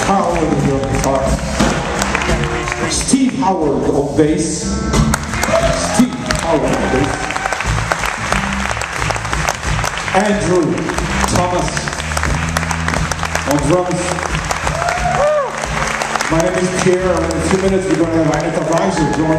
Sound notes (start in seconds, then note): 5.1 applause and cheering; 7.8 applause; 14.1 applause and cheering